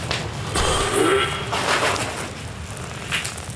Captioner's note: sound of cough